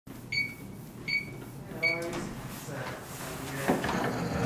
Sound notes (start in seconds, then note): 0.2 alarm buttons beeping